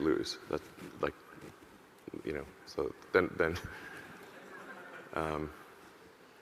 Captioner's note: audience chuckling